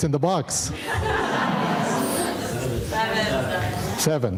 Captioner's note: audience laughing